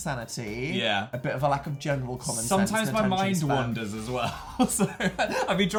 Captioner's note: laughing